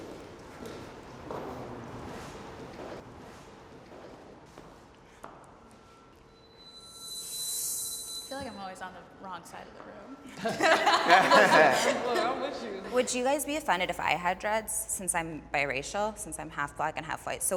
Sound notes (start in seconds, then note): 6.8 pitch whirring; 10.4 panelists laughing